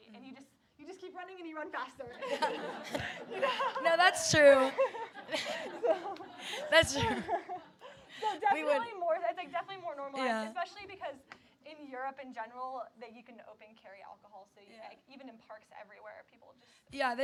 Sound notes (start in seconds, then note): 2.2 audience laughing